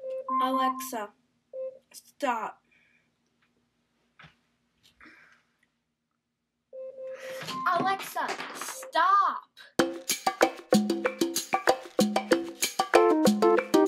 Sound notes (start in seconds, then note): 0.0 Alexa alarm; 8.6 Alexa alarm